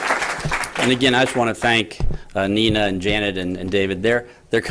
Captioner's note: applause